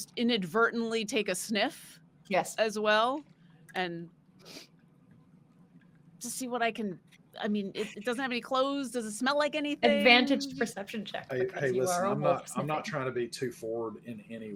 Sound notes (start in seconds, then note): 4.2 sniffs